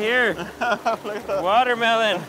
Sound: laughs

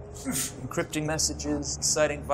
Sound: X grunts

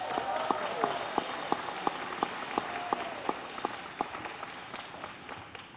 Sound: cheers

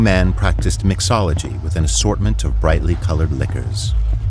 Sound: none

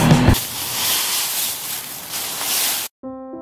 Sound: leaves crunching; light piano music

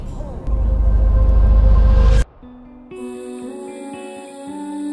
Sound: echoing

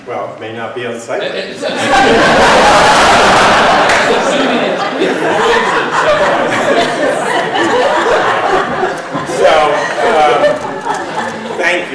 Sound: laughter

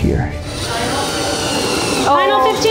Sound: saw whirring

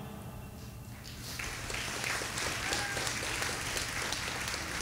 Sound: audience applauding

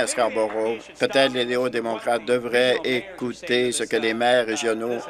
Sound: applause

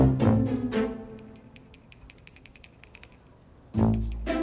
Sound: jingling

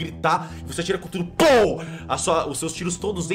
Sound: pow

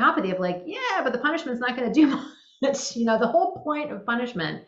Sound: laughing

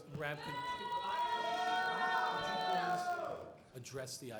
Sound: booing

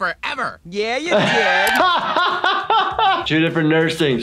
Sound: laughs

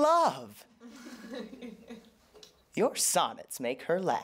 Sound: laughter

